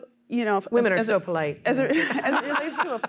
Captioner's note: laughter